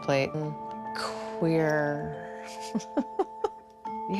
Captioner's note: laughs